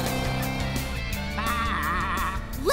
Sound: bleating

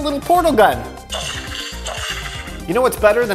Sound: gun buzzing

